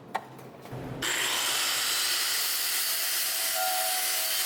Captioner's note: machine whirring